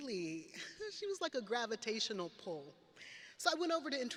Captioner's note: laughs